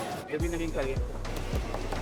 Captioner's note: speaks Spanish